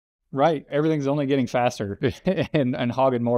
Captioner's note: laughs